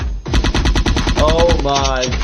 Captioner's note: gun shots